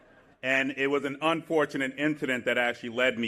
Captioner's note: laughter